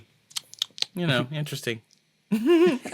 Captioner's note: smacks chops; laugh